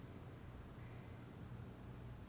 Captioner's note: none